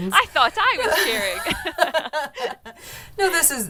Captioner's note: laughing